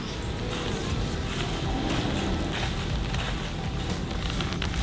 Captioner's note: leaves crackling